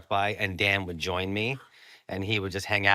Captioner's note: gasps